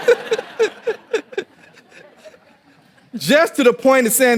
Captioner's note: audience laughing